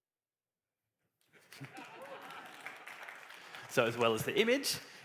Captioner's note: laughter, applause